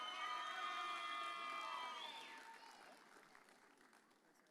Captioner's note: audience cheers